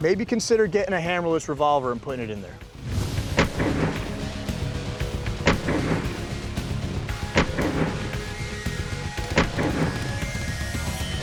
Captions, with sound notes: maybe consider getting a hammerless revolver and putting it in there. (gun fires) (rock music)